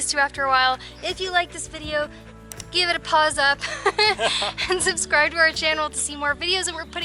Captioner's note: laughter